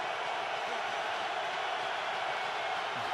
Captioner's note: crowd cheering